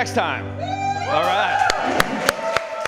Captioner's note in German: applaus